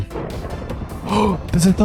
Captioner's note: gasp